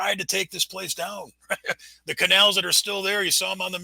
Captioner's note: laughs